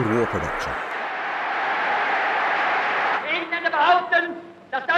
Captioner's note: people cheering